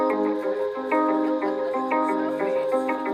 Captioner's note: laughs; soft music